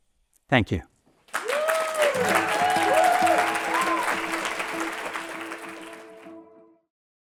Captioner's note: applause and cheering